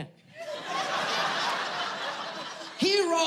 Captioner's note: audience laughing